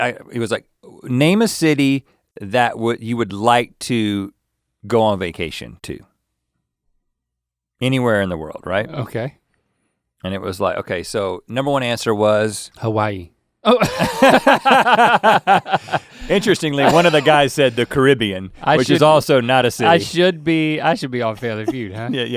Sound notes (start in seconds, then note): 13.7 laughing